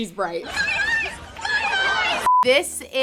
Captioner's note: beep